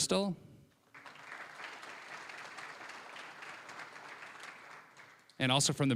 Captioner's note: applause